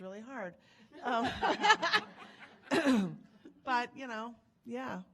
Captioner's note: laughing